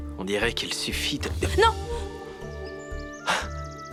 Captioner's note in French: halètements